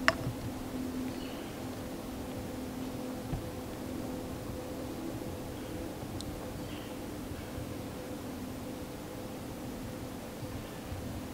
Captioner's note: birds singing, deer footsteps in the leaves